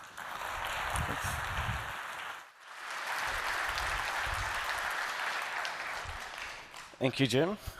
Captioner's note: applause